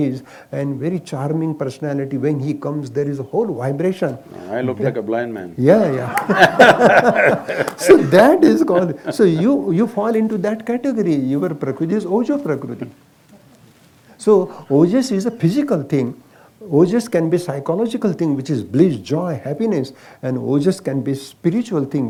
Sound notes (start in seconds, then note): 6.0 laughter; 8.6 laughs